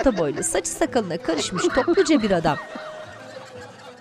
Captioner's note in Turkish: Gülme sesi